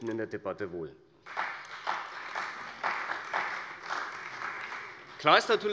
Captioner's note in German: Beifall bei der CDU und dem BÜNDNIS 90/DIE GRÜNEN